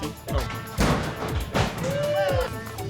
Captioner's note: crashing